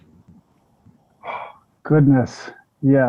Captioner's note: exhales deeply